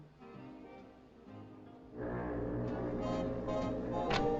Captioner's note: foghorn Blows